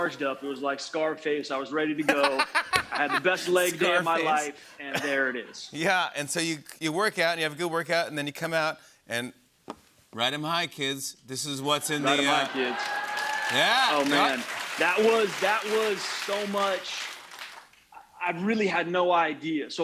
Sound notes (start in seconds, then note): 12.0 cheers and applause